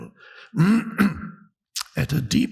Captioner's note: clears throat